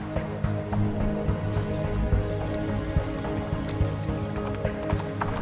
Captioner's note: horses whinnying; intense music; birds chirping; water sloshing; hooves clopping